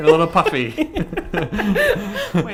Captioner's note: laughs